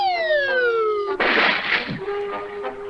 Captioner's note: splash!